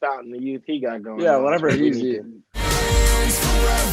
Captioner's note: murmuring